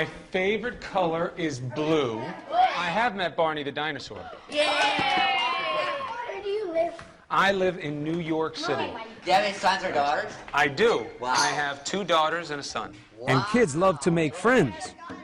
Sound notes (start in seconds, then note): 2.7 gasping; 4.5 kids cheering